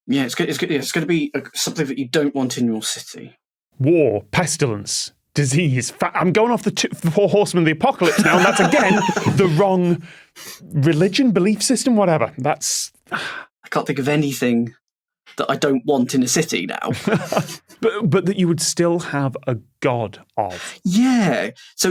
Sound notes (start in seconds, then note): 8.0 guests laughing; 17.0 chuckles; 17.1 snickers